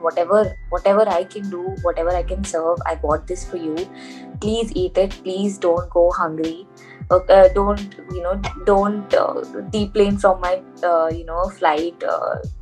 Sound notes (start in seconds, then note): none